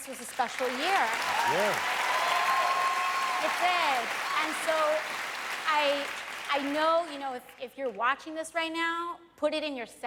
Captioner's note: cheers and applause